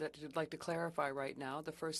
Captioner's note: speaking French